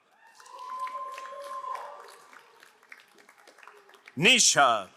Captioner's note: crowd cheering and applauding